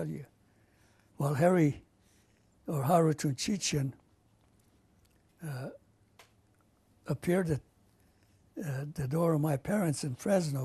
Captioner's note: non-english